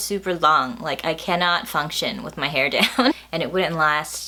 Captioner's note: laughs